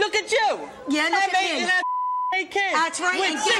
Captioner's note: beeps